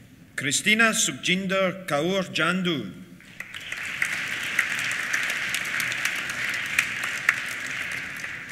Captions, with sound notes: Christina Sukjinder Kaur Jandu. (APPLAUSE)